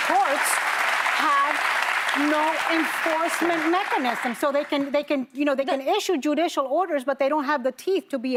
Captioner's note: applause